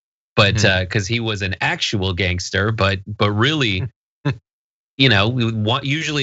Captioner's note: laugh